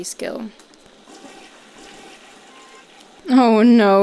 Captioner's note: toilet flushing